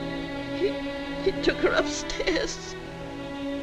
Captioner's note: sobs